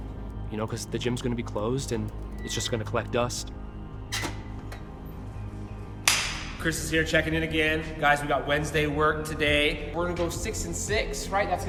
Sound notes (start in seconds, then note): 4.2 creaking; 6.1 clapping